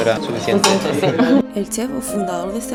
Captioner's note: laughter